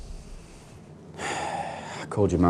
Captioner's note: sighs